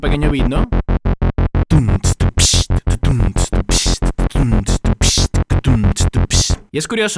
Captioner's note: legendary beatbox